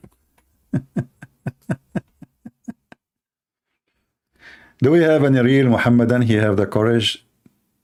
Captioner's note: Ketawa